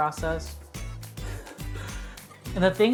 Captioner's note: chuckles softly